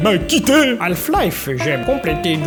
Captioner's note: with a Yoda voice